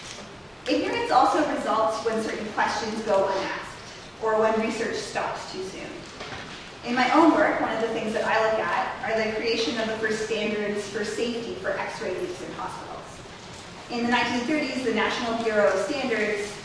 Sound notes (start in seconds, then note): none